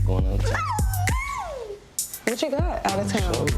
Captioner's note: thumping hip-hop music; squeals